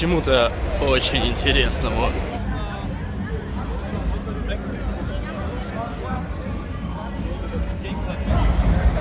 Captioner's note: street noises